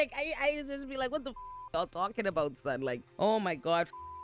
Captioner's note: beep; beep